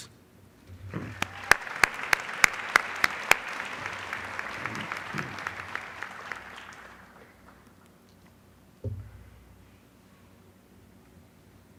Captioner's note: applause